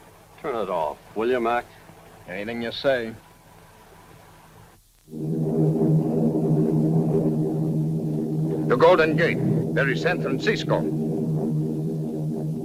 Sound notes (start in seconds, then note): 5.1 plane engines roaring